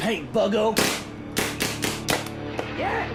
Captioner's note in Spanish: chasquido de pistola de paintball